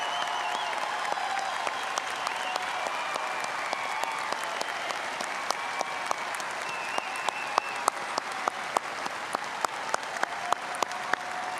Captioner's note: applause